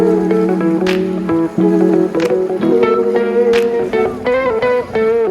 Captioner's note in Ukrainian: оплески